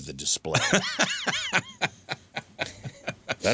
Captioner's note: laughing